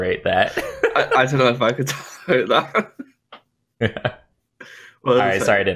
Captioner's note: laughter